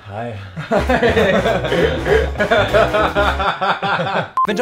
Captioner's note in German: lacht